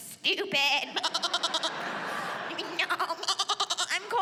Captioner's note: mimics baaing